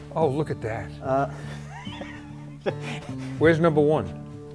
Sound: laughs

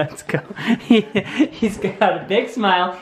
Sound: giggles

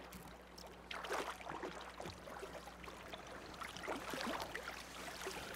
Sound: fish splashing

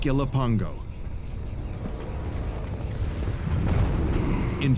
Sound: ominous music; deep rumble

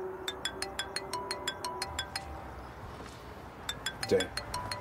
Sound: ring tone jingling

